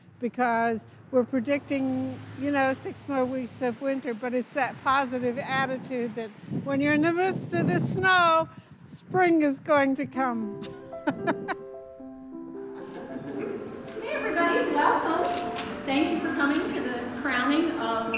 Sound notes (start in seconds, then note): 10.7 laughs